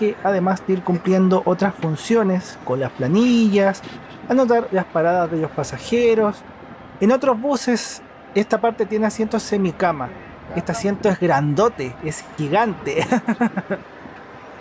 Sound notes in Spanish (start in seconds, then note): 12.9 risas